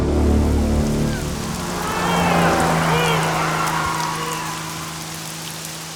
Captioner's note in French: La Pontiac s'enfuit tandis que Loeb hurle sauvagement